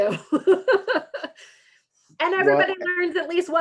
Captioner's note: laughs